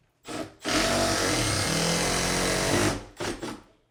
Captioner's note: drill drilling